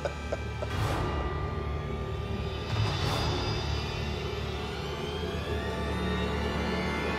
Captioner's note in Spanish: Risas